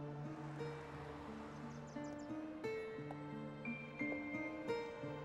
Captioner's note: birds chirping